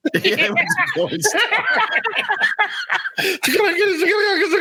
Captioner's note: laughing